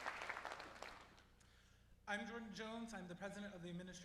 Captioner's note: applause